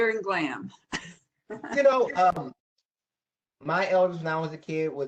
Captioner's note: professor speaking